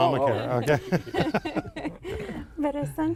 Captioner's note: laughter